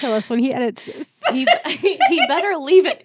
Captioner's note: laughing